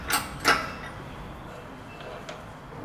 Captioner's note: machine Clanking